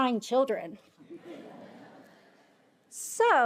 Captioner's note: attendees laughing